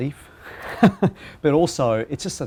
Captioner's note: laughs